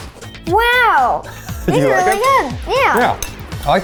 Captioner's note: chuckles